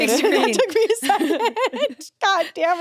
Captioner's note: everyone laughs